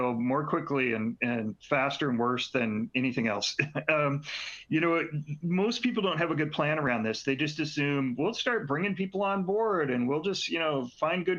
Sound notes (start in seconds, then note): 3.6 laughter